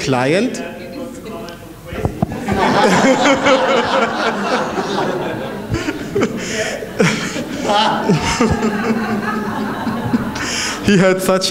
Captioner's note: laughter